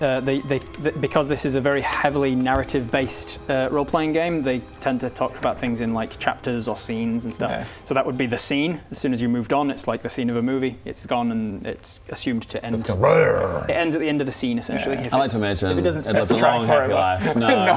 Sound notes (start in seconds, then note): 12.8 brrr